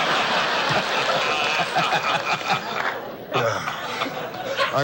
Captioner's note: audience laughs; laughs